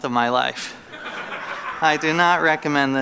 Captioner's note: laughter